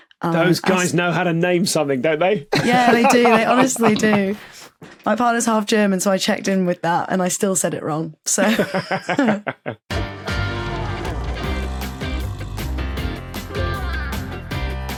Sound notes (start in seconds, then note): 8.4 scattered laughter